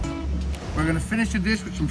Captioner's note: gentle guitar music; air whooshing